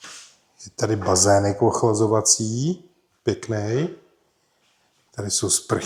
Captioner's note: sniff